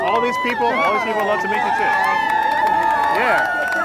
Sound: applause

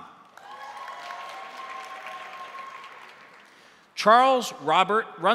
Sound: crowd applauding; crowd cheering

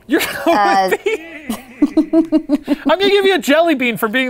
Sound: laughs

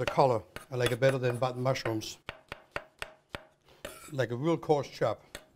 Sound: chopping

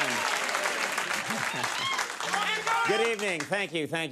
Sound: chuckles

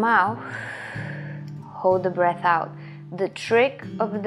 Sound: exhales sharply

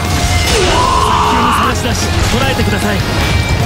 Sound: KO Scream

